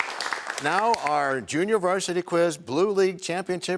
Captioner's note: cheers and applause